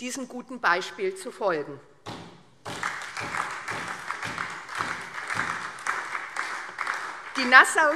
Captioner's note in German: Beifall SPD